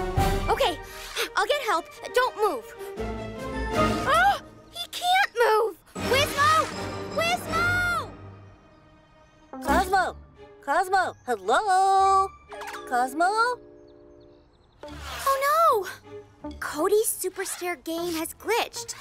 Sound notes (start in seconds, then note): 0.0 intense music; 3.9 gasps